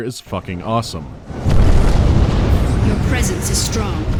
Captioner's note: boom